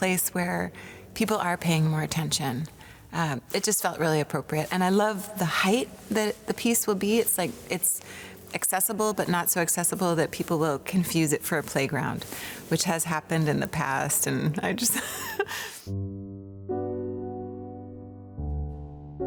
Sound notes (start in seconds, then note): 14.9 laughs lightly; 15.8 gentle piano music